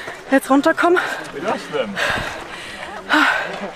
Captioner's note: loud panting